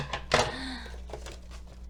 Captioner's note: gasps